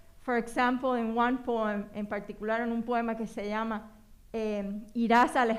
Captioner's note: speaking spanish